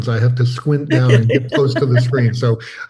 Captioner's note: chuckles